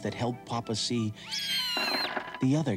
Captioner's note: screeching